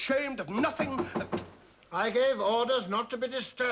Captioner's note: knocking